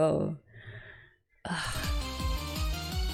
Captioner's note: sighs